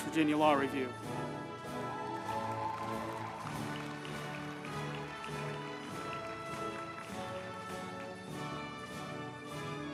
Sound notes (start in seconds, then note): 1.5 group applauding; 1.9 uplifting music